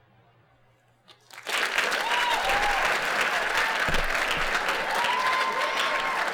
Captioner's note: applause